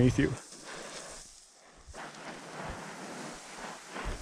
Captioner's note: feet sliding